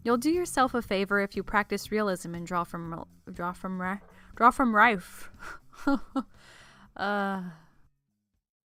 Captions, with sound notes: You'll do yourself a favor if you practice realism and draw from li- draw from ri- DRAW FROM RIFE! *laughs and sighs*